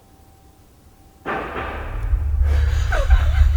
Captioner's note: knock thudding; laughing